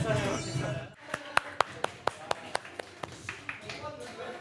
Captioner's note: applauding